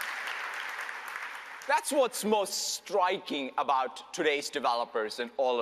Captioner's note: applause